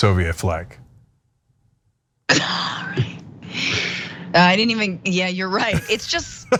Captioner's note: laugh